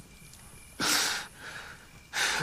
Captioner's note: sobs